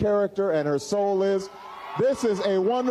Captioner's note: cheers and applause